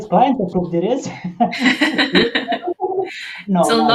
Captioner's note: laughing